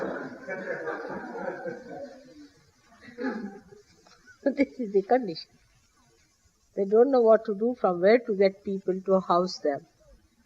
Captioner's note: laughter